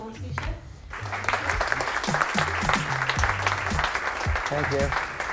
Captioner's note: audience clap